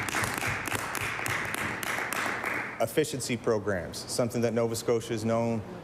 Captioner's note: applause